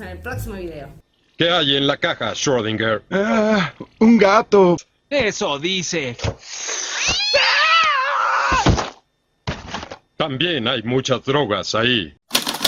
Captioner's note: screams